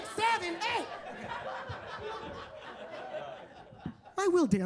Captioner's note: attendees laughing